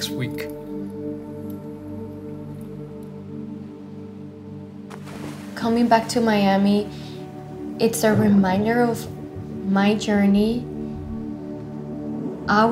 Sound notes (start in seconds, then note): 0.6 solemn music continues; 4.8 water splashes; 9.7 upbeat music